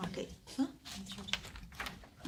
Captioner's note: student murmur